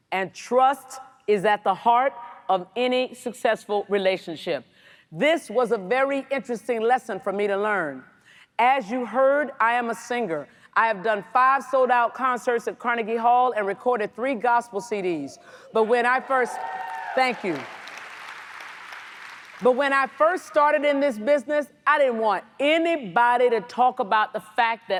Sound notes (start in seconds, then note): 16.2 audience cheers; 18.2 audience applauds